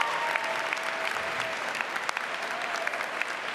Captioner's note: applause